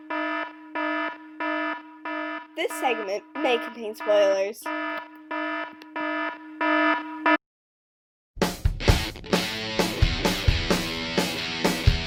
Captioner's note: klaxon sounds